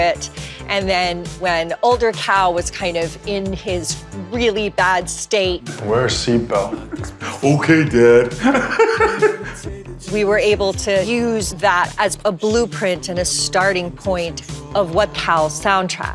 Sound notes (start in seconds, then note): 6.9 mocking; 8.1 laughs